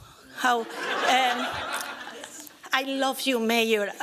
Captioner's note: laughter